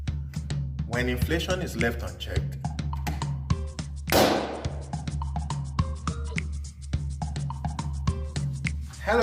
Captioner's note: pops balloon